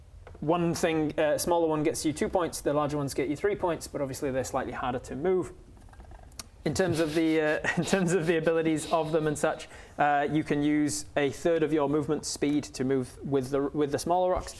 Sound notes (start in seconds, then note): 6.7 snickering